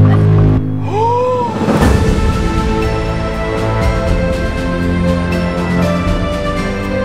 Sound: dramatic music; someone gasps

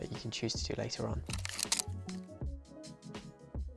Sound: shutter clicking; groovy music

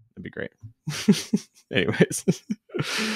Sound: chuckles

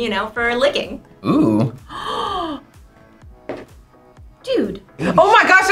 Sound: gasps

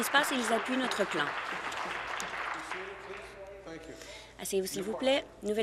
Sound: applause

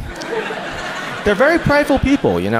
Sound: audience laughs

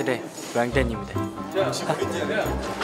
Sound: hahaha; laugh

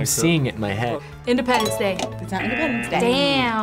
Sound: klaxon sounding

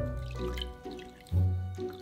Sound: liquid pouring

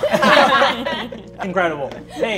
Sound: all laughing

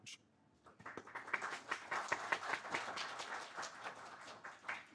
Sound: audience applauding

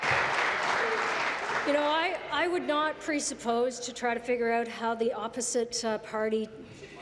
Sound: applause

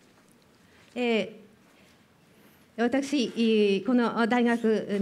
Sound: speaking japanese

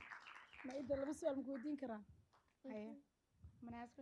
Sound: speaking Somali

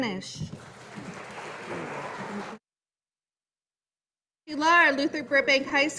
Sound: audience applauding

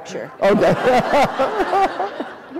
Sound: laughter

